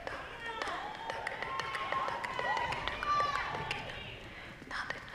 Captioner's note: audience cheering